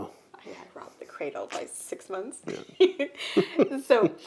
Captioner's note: laughs